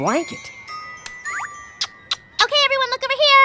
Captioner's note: kisses